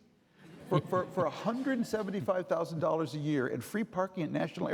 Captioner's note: audience laughing